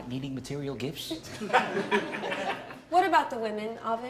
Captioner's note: laughter